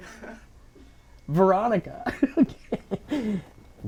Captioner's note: laughing